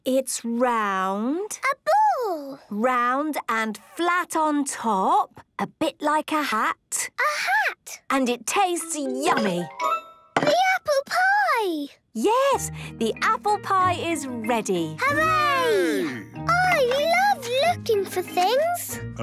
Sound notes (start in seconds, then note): none